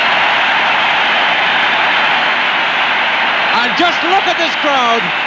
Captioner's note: crowd roaring and whistling